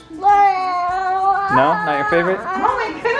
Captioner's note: groans